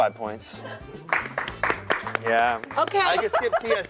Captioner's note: offscreen clapping